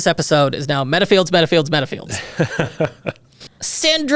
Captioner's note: laughs